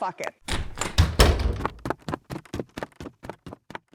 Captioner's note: footsteps exiting the room